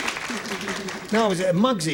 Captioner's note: applause